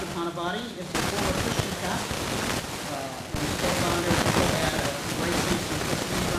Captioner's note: static hissing drowns out speech